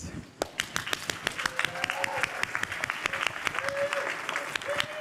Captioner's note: cheering